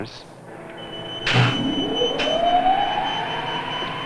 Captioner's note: electronic whirring